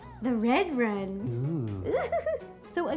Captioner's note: oohing and giggling